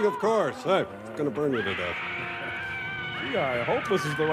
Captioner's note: screaming